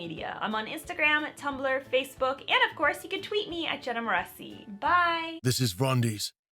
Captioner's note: rumbling Male Voice